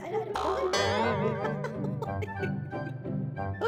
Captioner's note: titters